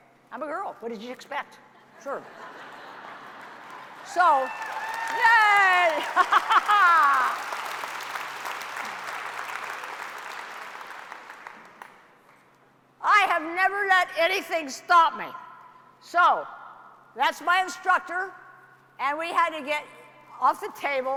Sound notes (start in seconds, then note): 4.0 cheering; 6.4 applause